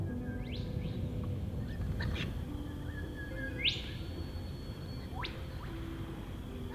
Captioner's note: birds chirping